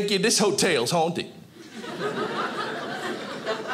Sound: audience laughing

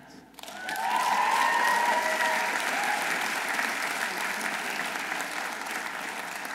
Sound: audience applauding; audience cheering

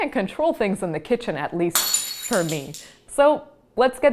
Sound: glass breaking

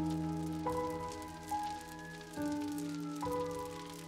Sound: distant sirens wailing

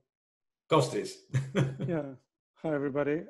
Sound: laughs

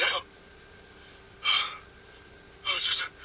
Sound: exhale

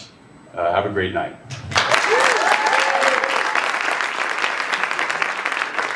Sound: applause

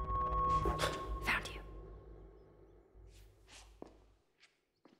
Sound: whisper

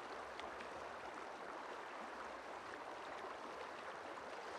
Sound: none

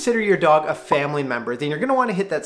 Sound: digital popping

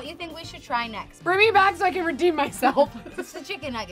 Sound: laughs

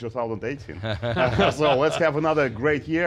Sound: laughs

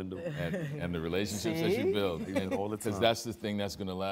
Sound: chuckles

